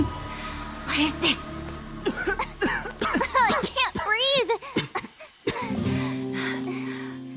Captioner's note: gasp